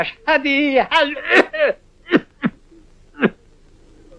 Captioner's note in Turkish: öksürme